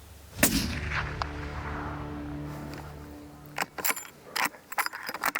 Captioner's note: rifle firing; somber music; rifle recoiling